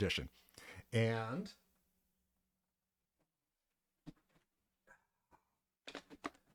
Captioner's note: pause